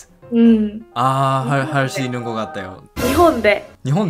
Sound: Korean

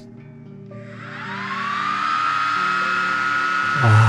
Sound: cooling fan turning on

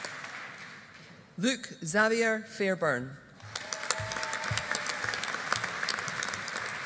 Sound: audience applauding

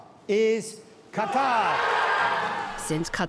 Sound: cheering and applause

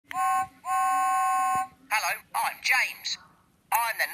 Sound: whistle blows

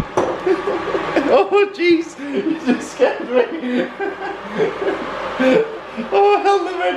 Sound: laughing; laughing

